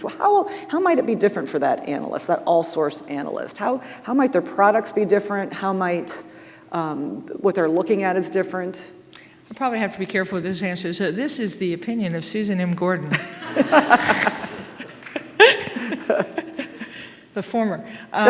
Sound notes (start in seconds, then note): 13.1 audience laughing; 13.1 host laughing